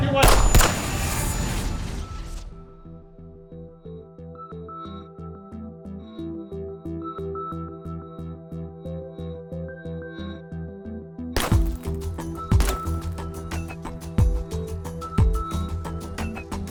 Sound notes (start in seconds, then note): 0.2 gunshot; 1.3 mysterious wooshing; 2.4 mysterious synth music; 11.4 bullet thudding; 13.5 mysterious music